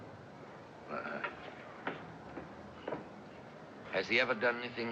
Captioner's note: disgusted Grunt